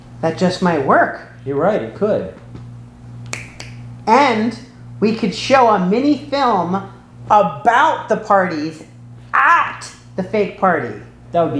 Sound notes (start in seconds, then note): 3.2 fingers snapping